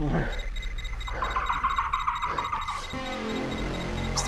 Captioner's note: squeaking intensifies